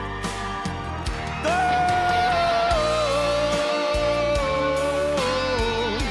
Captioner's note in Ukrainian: оплески